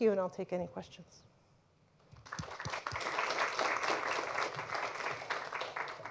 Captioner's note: applause